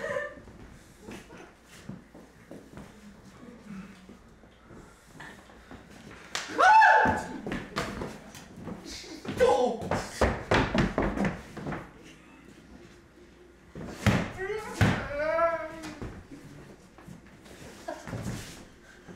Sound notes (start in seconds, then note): 6.4 scream